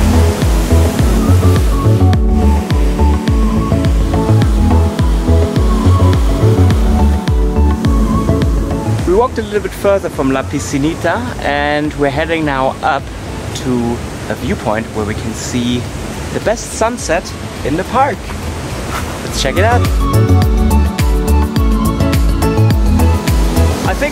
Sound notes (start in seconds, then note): 0.1 upbeat music; 5.3 waves crashing; 19.3 upbeat music